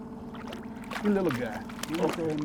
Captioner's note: fish splashing